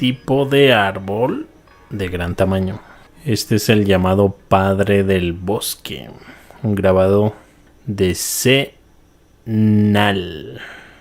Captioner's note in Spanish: suspiro